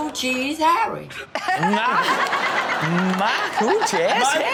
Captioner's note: Chanel laughs